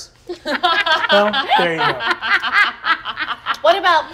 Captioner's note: all laugh